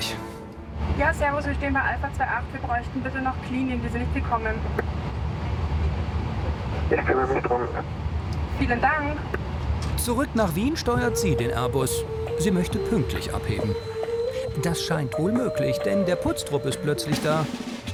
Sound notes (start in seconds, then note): 6.0 radio